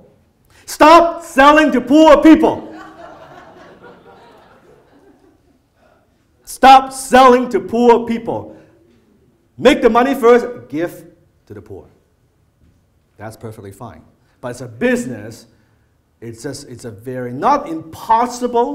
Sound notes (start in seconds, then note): 2.6 audience laughter